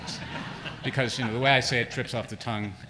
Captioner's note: laughter